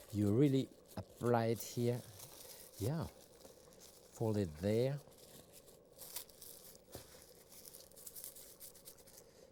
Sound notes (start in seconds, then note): 4.8 wrap rustling